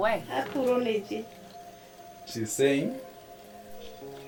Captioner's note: speaking in foreign language